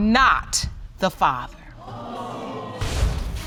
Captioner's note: audience exclaiming